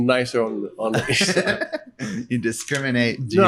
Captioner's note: laughs